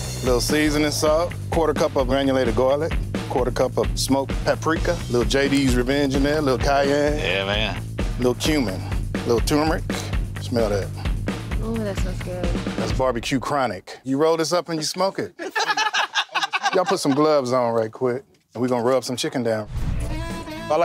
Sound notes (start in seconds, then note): 15.3 workers laugh